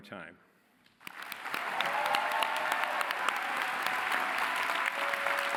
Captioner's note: cheering